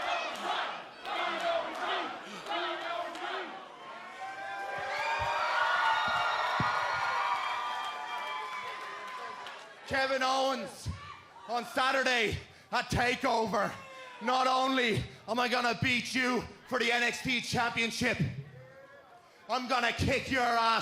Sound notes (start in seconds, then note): 0.0 fans chanting; 6.5 cheers and applause